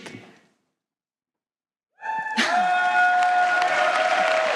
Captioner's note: applause